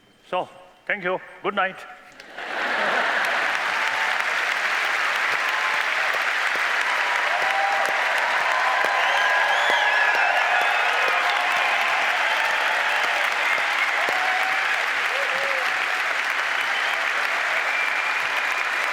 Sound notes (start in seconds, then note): 2.2 laughter; 5.5 applause